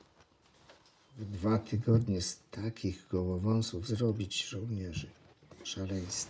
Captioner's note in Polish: szepcząc